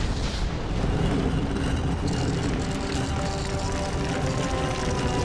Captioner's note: ground rumbling; rock crackling